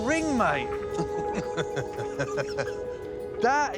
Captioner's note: laughing